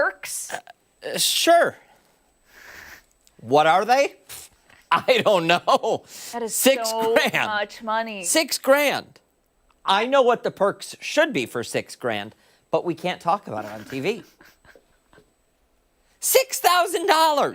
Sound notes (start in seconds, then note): 9.4 laughter